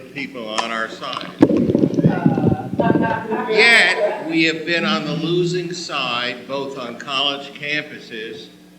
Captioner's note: audience Laughter